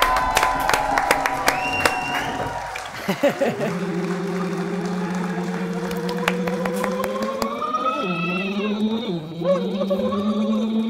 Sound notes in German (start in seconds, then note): 0.3 Jubel, Applaus; 3.2 Lachen; 4.8 Anschwellender Ton